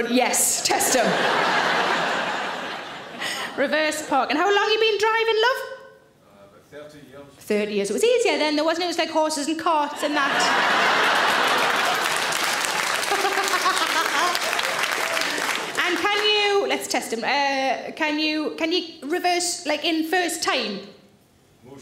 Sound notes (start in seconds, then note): 0.6 audience laughs; 9.9 audience laughs; 10.8 audience claps; 13.0 Sarah laughs